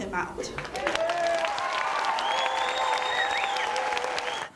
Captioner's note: applause